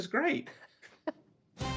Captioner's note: laughter